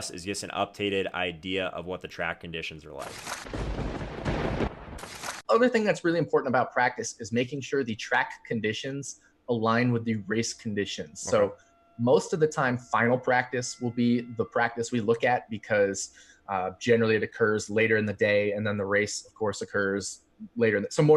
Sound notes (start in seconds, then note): 3.4 thunder rumbling